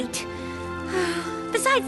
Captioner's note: sigh